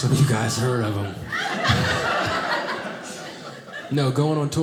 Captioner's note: audience laughing